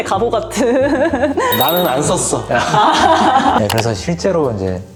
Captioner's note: emphatic